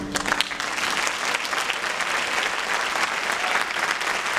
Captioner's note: applause